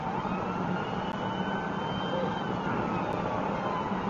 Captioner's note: police car siren